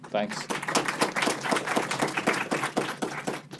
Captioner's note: applause